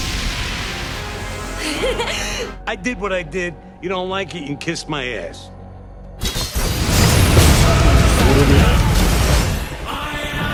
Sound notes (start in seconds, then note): 1.6 distressed loli vampire noises